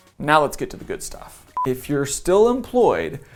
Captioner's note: beep